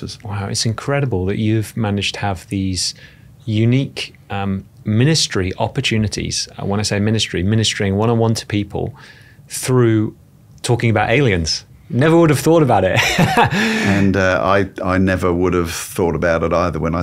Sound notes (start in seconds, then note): 13.0 laughing